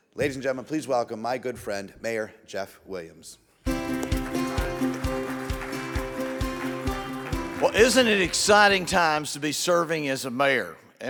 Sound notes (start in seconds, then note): 3.6 bright music; 3.6 audience applauds